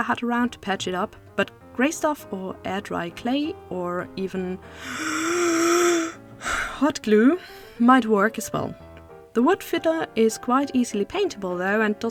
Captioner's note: gasp